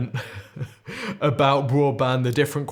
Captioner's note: laughs